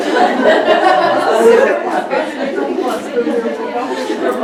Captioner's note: laughter